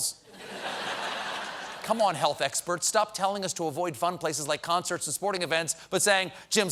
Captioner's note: laughter